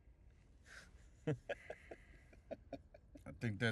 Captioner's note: laughing